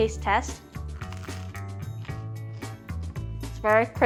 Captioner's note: bread crunches